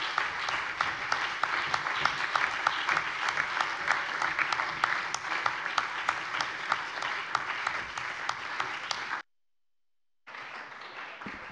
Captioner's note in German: Beifall